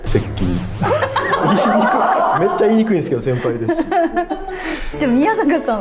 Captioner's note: uproarious laughter